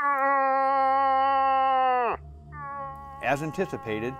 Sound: bellows

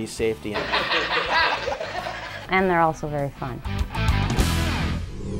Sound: laughing

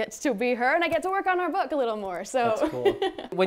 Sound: laughs

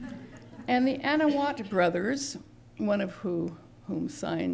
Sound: laughter

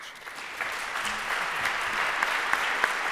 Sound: applause

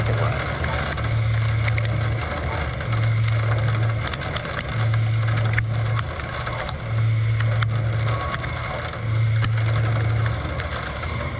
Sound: machining noises

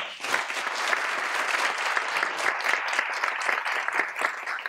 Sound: applause

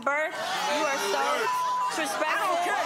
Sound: beep

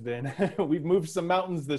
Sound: laughs

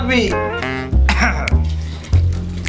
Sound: clears throat

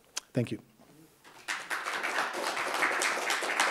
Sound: applause

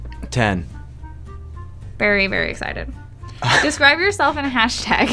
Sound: laughs

